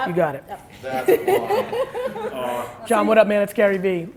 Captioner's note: slight laughter